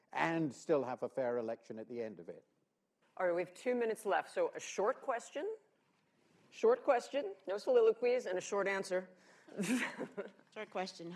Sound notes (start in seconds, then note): 9.5 laughs